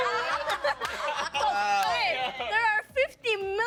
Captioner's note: all laughing